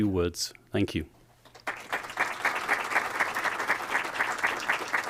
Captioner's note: applause